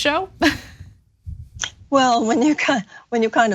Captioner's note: laugh